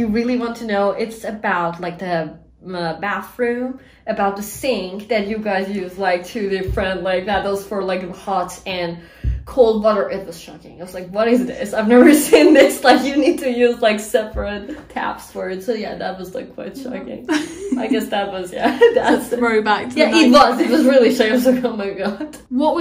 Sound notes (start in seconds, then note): 6.6 taps